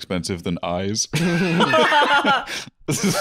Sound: all laughing

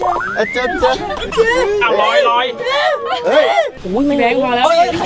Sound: cries

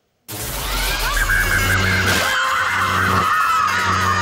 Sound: Mikey screams

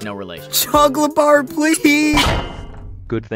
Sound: metallic clang

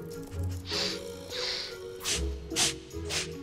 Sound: sniffing

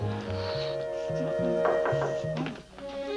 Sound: knocking on door

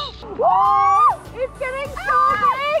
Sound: girls screaming

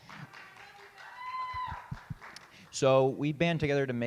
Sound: audience clap

